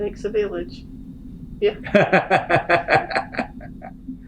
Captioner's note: laughs